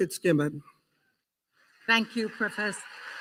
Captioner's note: applause